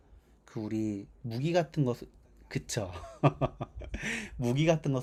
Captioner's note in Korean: 웃음